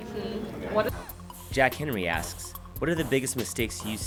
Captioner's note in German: Voice-over